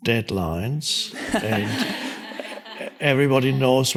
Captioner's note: audience laughs